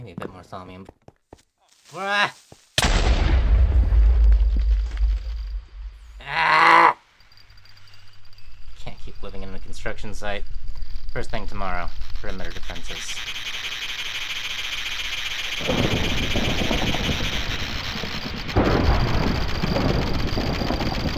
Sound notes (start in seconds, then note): 17.8 thunder rolls continuously